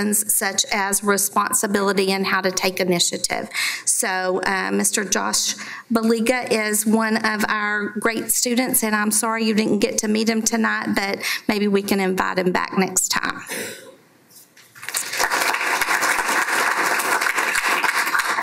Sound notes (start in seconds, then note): 14.7 applause